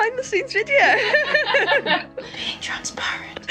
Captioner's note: group laughing